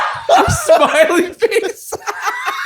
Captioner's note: hysterical laughter